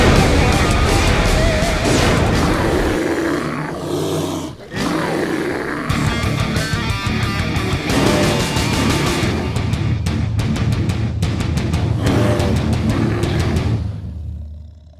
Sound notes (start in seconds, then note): 2.5 roooooar!